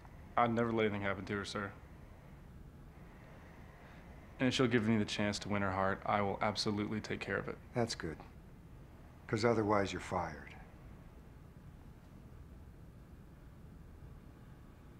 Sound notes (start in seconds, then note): none